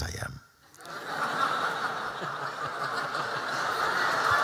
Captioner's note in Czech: Smích